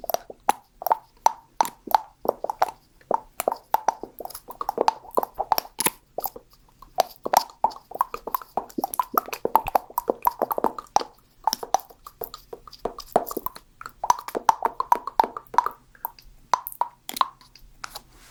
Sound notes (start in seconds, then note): 3.0 mouth sounds